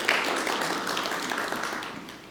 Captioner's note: applause